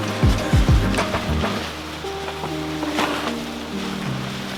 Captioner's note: sail rustling